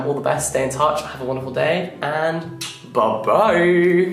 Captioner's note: lips smacking